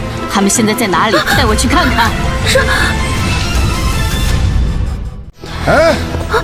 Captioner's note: none